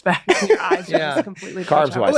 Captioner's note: Glenn laughing